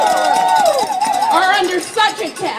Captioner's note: applaud